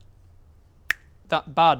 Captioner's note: click